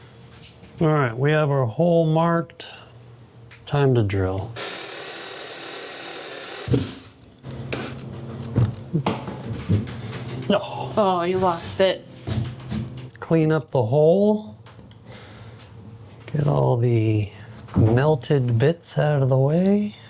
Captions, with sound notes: All right, we have our hole marked. Time to drill. (drill whirring) No. Oh, you lost it. Clean up the hole. Get all the melted bits out of the way.